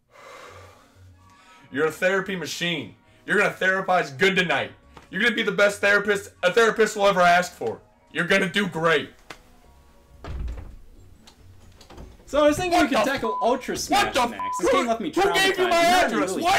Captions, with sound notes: - (sighs heavily) You're a therapy machine. You're going to therapize good tonight. You're going to be the best therapist a therapist will ever ask for. You're going to do great. (door opening) - So I was thinking we can tackle - What the (beep). - Ultra Smash next. This game - What the (beep). - left me traumatized. - Who gave you my address?